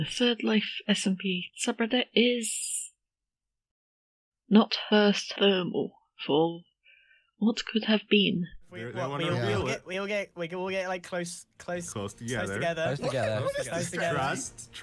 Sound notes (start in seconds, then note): 9.2 crowd murmering